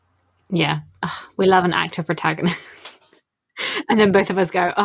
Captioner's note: laughing